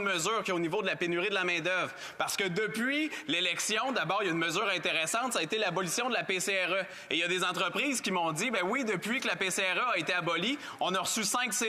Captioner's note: speaking French